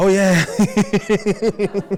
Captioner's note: laughter